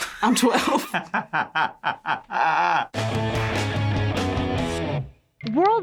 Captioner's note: both laugh; punk rock intro